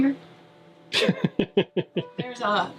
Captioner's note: laughs